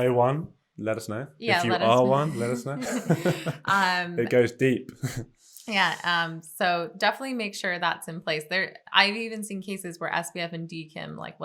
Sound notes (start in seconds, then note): 2.1 both chuckle